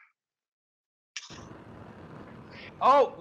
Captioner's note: cooking torch hisses